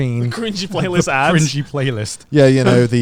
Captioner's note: laughing